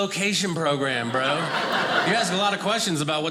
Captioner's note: audience laughing